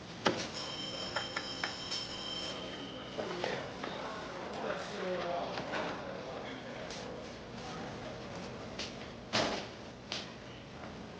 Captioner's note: ringing continues